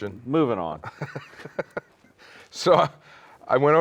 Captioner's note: laughs